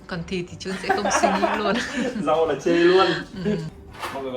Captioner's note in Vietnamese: tiếng cười